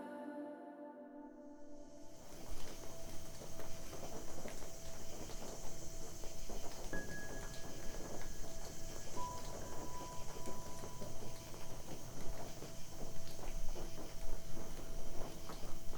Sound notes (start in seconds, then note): 6.1 eerie piano instrumental; 10.5 night din